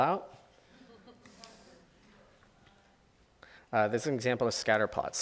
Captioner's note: audience chuckles